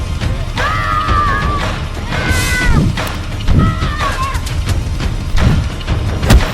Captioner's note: shouts